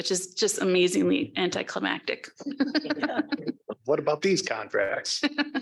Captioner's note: laughs